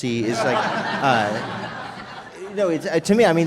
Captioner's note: laughter